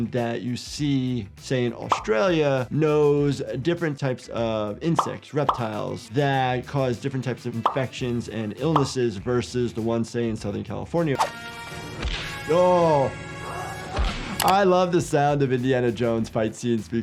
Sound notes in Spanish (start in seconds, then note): 13.1 Indiana grita